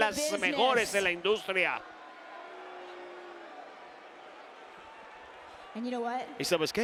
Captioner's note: applause